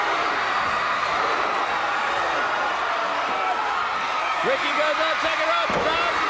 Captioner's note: crowd cheering